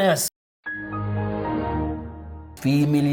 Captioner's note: Windows XP shutting down sound